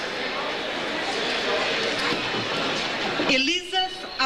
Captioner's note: overlapping chatter